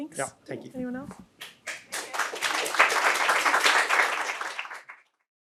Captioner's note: audience clapping